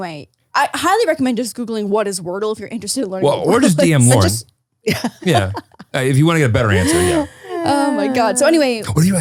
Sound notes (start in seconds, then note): 6.6 laughs